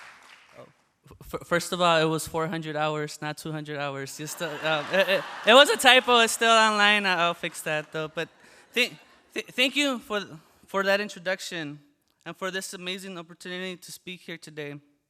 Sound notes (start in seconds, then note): 4.2 laughter